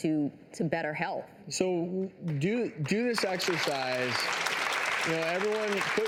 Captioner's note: audience applauding